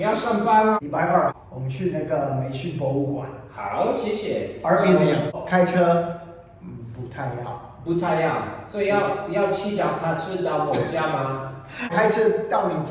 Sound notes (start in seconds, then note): 1.0 mandarin